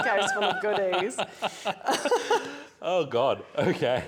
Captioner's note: laughter